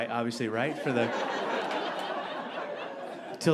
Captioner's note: audience laughing